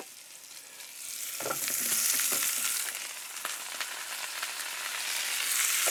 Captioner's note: sizzling